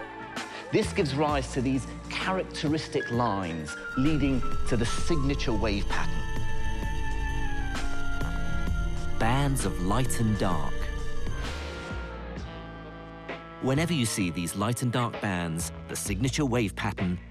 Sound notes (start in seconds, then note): 8.7 voiceover